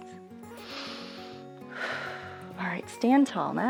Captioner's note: inhales and exhales